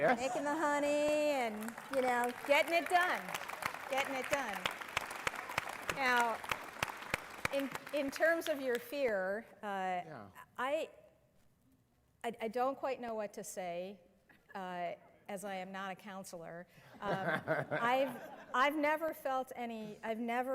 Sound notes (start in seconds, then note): 0.0 laughter; 6.8 applause; 17.0 laughter